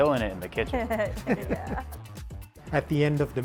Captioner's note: laughter from all